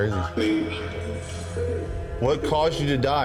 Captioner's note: vocoder vocalizing